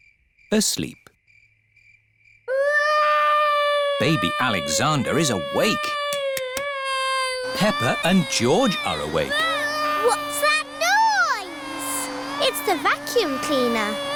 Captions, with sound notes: Asleep. (BABY ALEXANDER CRYING) Baby Alexander is awake. Peppa and George are awake. -(VACUUM CLEANER WHIRRING) -What's that noise? It's the vacuum cleaner.